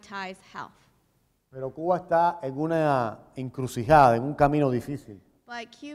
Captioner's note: speaking in Spanish